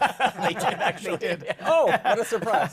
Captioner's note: laughter